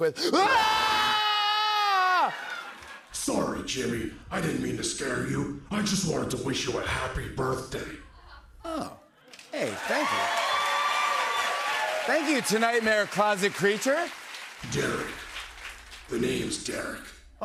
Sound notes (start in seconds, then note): 0.3 screaming; 3.1 distorted; 9.3 cheers and applause